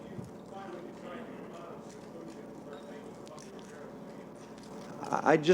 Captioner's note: reporter faintly speaking